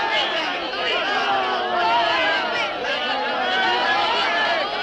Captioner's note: crowd jeering